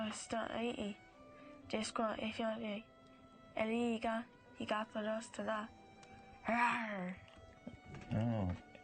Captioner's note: none